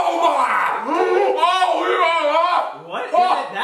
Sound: inarticulate yelling

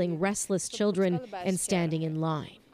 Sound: speaking Foreign Language

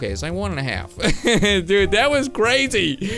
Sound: laughing

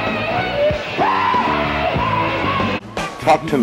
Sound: screaming

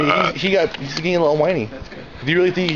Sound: burps

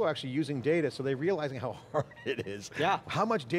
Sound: laughs

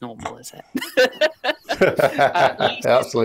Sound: laughter

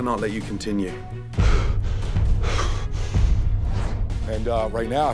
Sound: breathing heavily

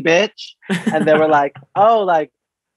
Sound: laughs

